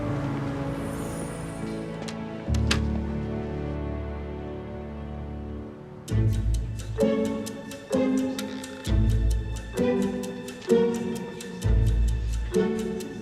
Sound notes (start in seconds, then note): 1.7 door opens and closes; 6.3 whimsical music